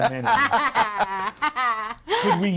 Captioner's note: others laughing